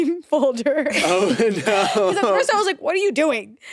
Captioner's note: all laugh